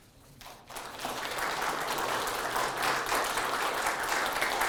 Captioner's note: audience applauding